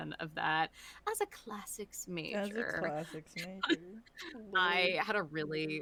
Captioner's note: in a posh voice